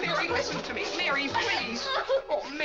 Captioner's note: Mary cries